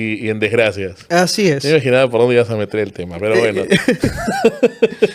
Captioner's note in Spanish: risas